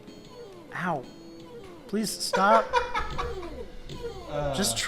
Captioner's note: cackling